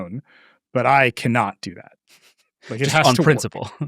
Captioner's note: chuckles